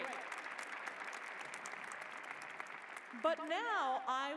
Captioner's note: applause